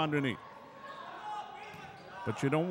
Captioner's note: shoes squeaking; yelling